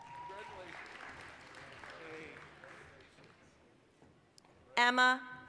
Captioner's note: applause